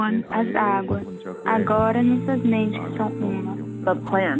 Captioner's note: foreign language 00:46:32